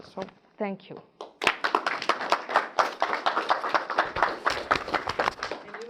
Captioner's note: audience applause